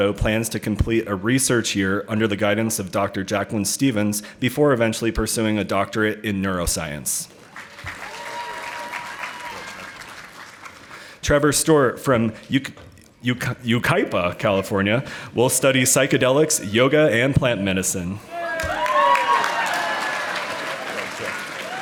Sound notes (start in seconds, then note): 7.4 audience applauding; 18.4 audience applauding